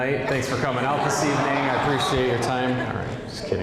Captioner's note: audience laughing